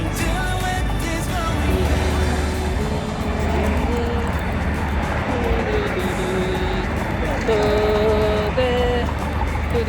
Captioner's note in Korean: 흥얼흥얼